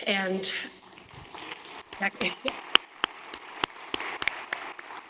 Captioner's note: applause